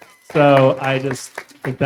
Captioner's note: everyone applauding